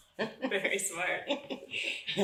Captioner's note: chuckles